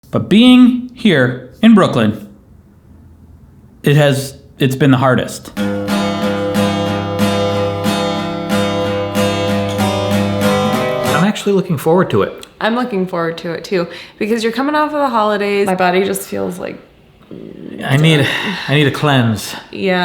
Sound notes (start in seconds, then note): 5.5 bright guitar music; 17.2 groans